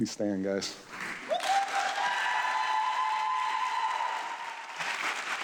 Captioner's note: audience clapping